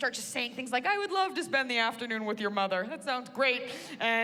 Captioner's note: none